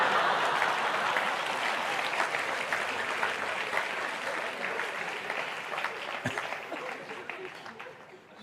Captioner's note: laughter/Applause